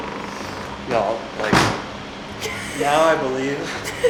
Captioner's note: door slams